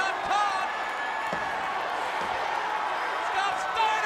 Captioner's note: crowd cheering